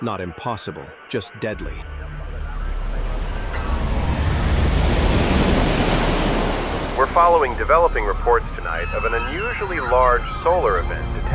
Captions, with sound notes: Not impossible, just deadly. [waves splashing] We're following developing reports tonight of an unusually large solar event